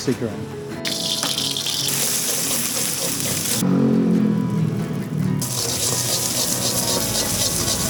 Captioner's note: sizzling